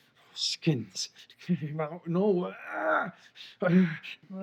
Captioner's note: groans